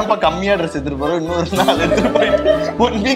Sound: laughs

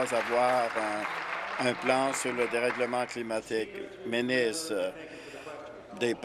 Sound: applause

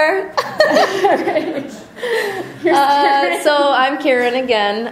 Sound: voiceover; laughter

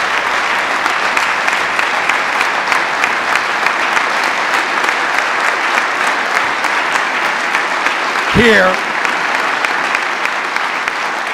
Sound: applause

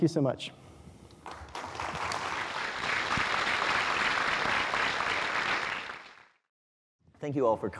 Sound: applause

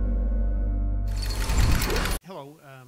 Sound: gate closing

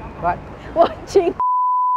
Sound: laughs

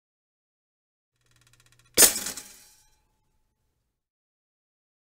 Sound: sound of oven toaster

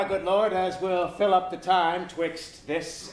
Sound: none

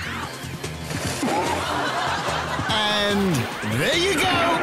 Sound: audience laughing

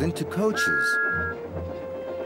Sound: toooot!

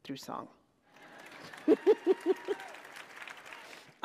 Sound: applause

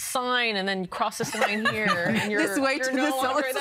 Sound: laughing

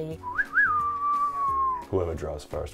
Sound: whistles

